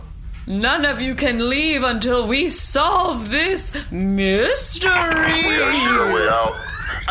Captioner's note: charges blaster